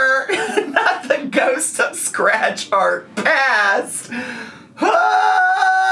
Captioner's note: yells